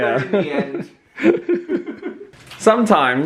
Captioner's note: laughing